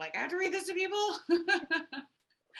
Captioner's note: chuckles